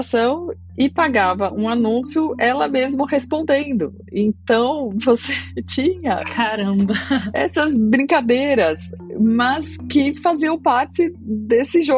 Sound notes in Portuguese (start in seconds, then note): 6.9 risadas